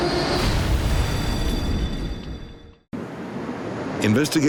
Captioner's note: aircraft exploding